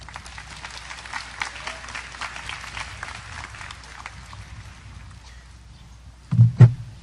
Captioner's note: audience applause